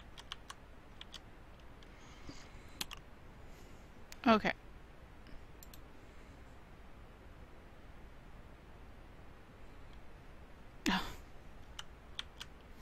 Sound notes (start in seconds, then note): 10.8 sighs